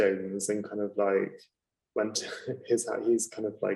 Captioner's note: laughing